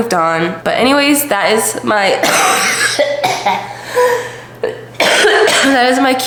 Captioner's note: coughing fit